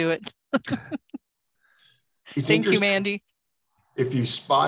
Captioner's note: laughs